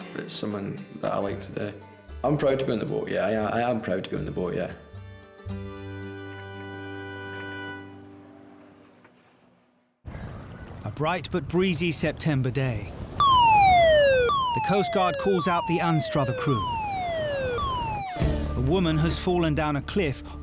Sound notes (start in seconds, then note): 5.7 gentle music; 13.2 alarm blaring